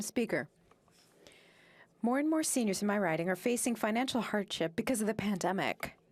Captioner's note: speaking French